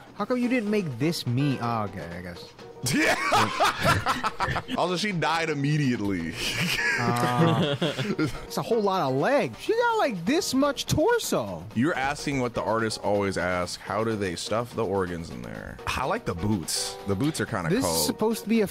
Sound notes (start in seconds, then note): 2.8 laughing; 6.3 all laughing